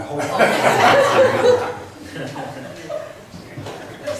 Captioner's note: laughs